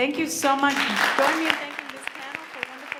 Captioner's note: audience applauds